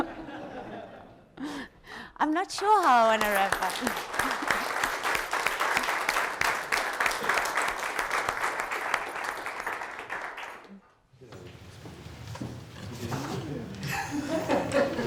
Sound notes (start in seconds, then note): 0.0 audience laughs; 4.6 audience applauds